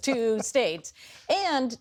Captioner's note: laughter